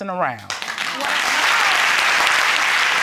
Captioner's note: audience applauding